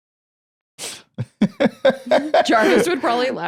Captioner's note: laughs